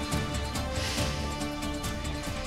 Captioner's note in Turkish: Nefes sesi